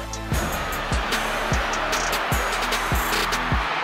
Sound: crowd cheering

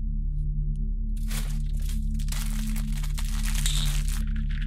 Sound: fortune cookie wrapper crinkles

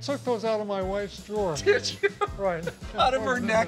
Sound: laughs

